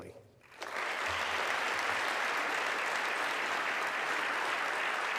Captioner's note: audience clapping